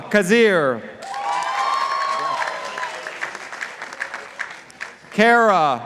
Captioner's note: participants applauding